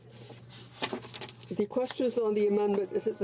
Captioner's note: speaking French